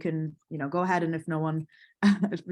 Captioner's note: laughs